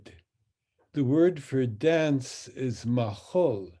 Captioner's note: speaks in Hebrew